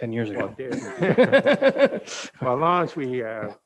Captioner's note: all laughing